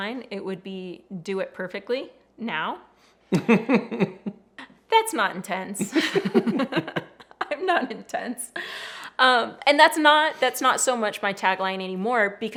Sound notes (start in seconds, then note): 3.3 laughs; 5.8 both laughing